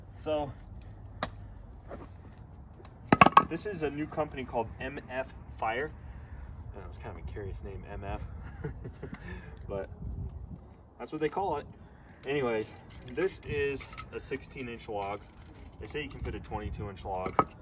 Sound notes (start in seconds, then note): 8.4 laughing